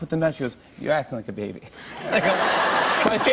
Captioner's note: laughter